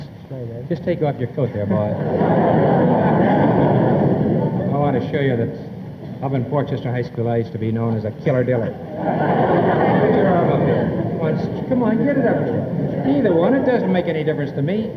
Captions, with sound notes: - Sure, Ed. - Just take off your coat there, boy. (audience laughs) I want to show you this. Up in Portchester High School, I used to be known as a killer diller. (audience laughs) Put your arm up here. Come on, come on, get it up boy. Either one, it doesn't make any difference to me.